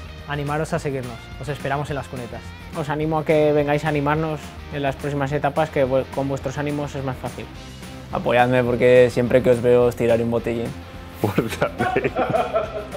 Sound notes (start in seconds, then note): 0.2 speaking spanish; 11.2 laughing